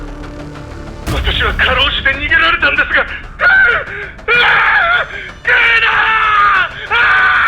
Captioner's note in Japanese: 叫び声